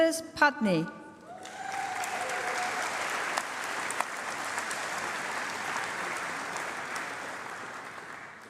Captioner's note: applause